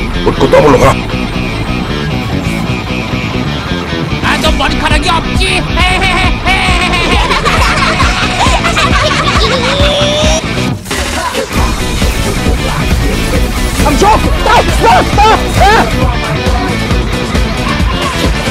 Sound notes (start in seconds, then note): 5.7 loud Laughing; 5.8 laughing